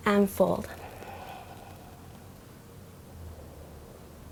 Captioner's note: exhales